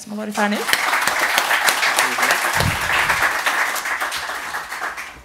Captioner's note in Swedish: Applåder